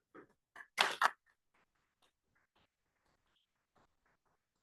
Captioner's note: audience applauding